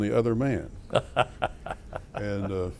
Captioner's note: laughter